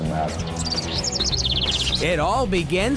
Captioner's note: birds chirping